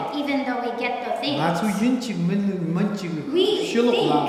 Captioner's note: speaking tibetan